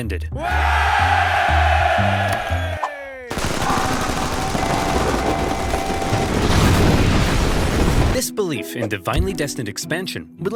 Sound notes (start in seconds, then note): 0.4 crowd cheering; 3.3 gunfire; 6.9 explosion